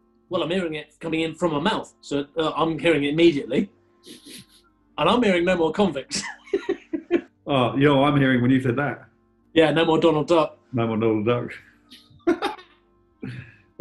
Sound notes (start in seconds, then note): 6.1 chuckling; 12.2 laughing